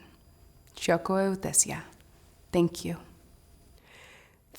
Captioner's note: non-english